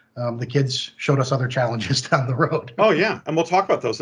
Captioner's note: laughs